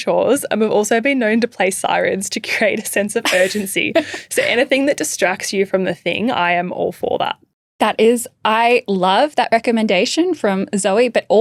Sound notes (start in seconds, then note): 3.2 chuckling